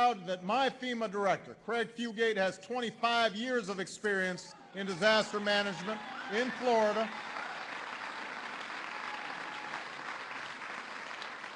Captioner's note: applause